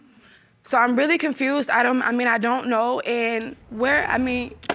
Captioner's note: laughs